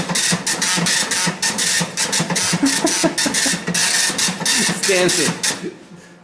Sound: laughing

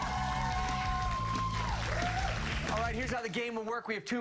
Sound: cheers and applause

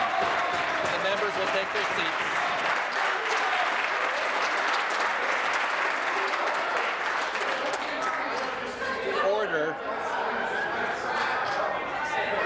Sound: applause

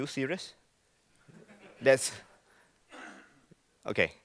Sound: laughing

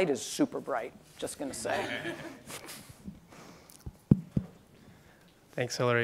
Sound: crowd laughs quietly

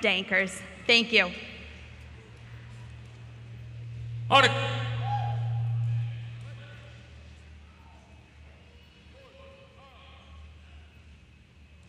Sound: silence

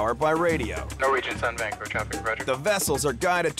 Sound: man Over Radio

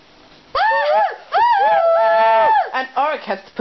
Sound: cheering

